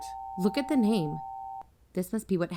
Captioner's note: amber alert stops